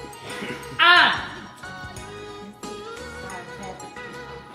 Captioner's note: loud exclaiming